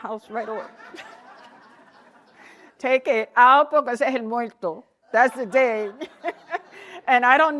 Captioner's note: laughter